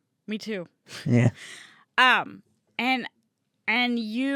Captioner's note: laughs